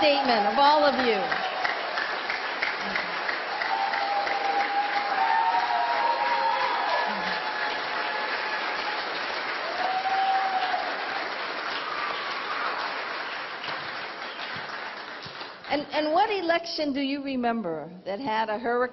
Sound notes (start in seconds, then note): 7.4 applause